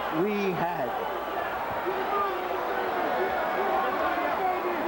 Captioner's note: cheers and yelling